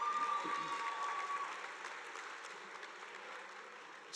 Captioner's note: audience applauding